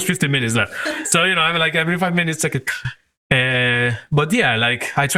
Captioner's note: sigh